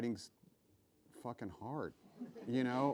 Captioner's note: laughs